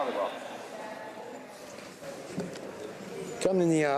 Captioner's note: speaking French